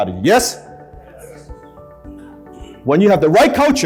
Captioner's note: crowd agrees